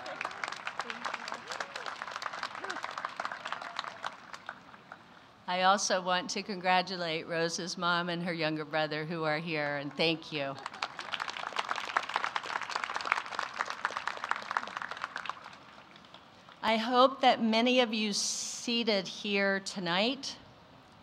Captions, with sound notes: [applause] I also want to congratulate Rosa's mom and her younger brother who are here. Thank you! [applause] I hope that many of you seated here tonight